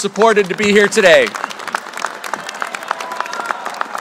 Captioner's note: applause